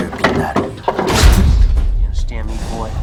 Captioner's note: hatch slams shut